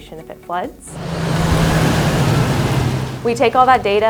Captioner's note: car driving